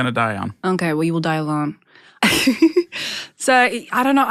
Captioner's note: laughs